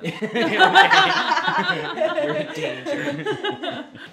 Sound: people laughing

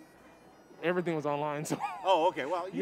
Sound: laughing

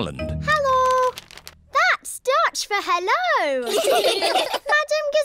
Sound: laughter

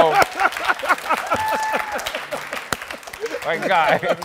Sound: cheering

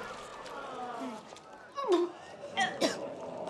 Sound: gagging

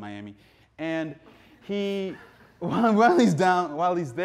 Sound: audience laughing

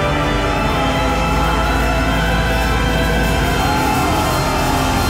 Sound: muffled shouting; dramatic music

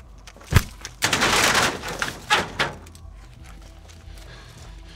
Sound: door bangs

